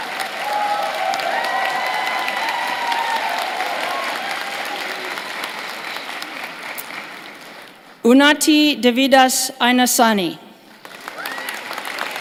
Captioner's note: cheers and applause